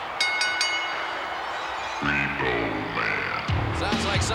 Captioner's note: bell ringing